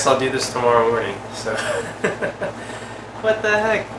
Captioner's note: chuckles